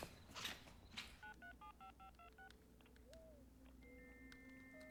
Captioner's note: phone Dialing; modem Buzzing